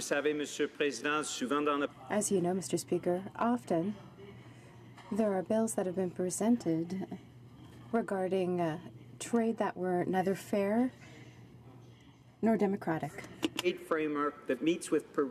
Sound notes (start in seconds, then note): 3.5 speaking French